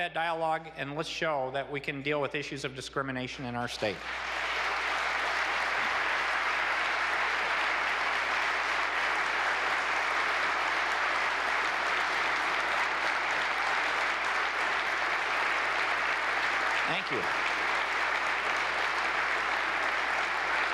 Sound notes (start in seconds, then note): 7.9 applause